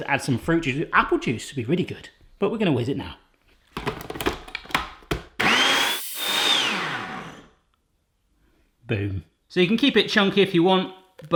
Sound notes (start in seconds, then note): 3.7 plastic clattering; 5.2 blender motor